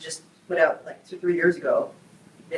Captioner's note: none